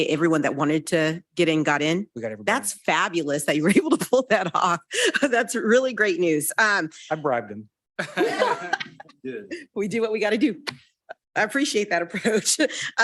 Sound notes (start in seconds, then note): 8.0 attendees and board members laugh